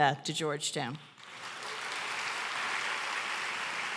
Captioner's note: applause